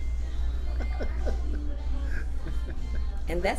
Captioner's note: laughs